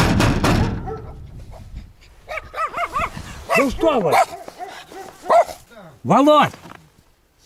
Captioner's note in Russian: стук в дверь; лай собак